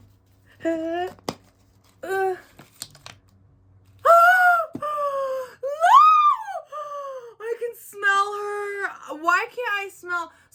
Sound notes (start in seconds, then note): 3.6 gasp; 3.6 scream